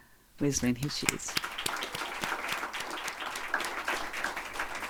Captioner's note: audience applauding